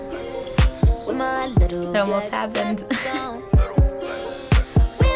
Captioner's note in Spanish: risitas